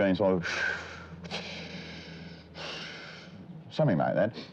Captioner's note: hissing